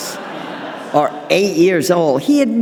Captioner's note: audience laughing